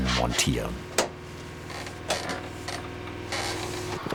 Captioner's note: creaking, a distant, dark whirring